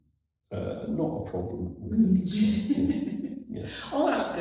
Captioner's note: laughs